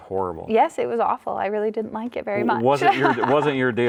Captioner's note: laughs